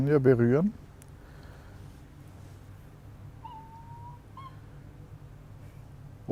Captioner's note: geese noises in the background